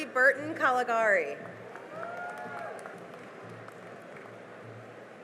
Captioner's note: cheering and applause